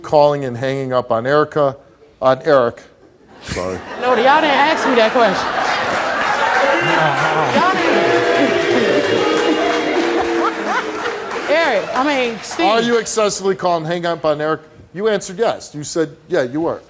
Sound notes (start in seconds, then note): 3.5 audience laughs; 7.6 audience boos